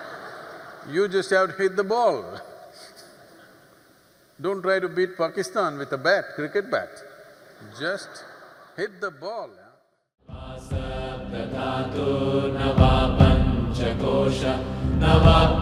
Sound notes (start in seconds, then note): 0.0 few laugh; 3.0 laughs; 7.6 few laugh